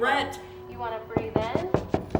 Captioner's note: door knocking